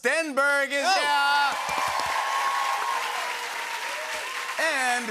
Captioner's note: cheering and applause